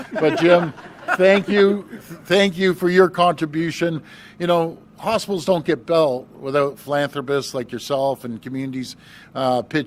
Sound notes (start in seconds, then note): 4.3 laughter